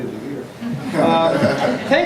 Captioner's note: laughter